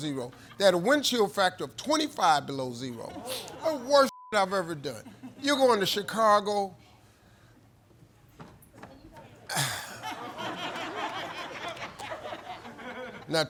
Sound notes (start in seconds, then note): 4.1 beep; 9.5 sighs; 9.5 laughter